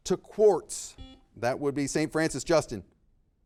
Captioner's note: buzzer beeping